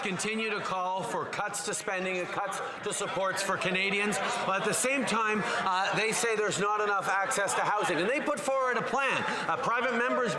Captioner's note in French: voix de l'interprète